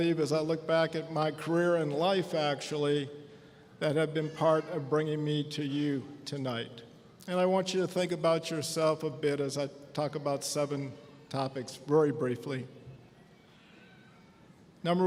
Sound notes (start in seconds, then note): none